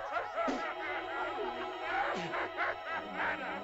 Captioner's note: laughter; child spits; laughter